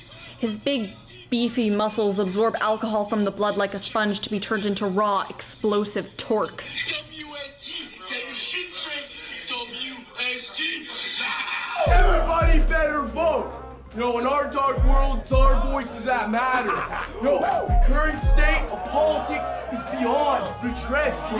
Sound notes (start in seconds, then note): 10.2 yelling